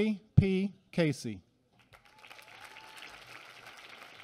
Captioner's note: applause